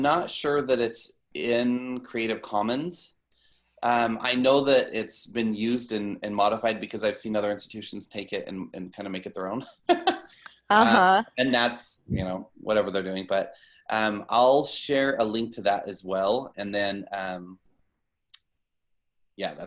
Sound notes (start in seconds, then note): 10.8 laughter